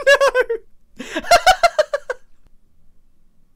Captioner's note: laughs